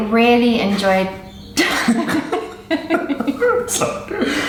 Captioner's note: laughs